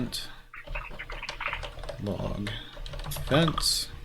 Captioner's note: keyboard keys clanking